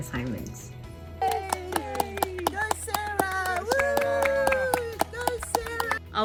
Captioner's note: clapping